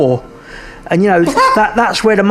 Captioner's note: laughs